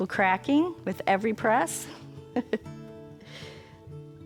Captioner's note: laughs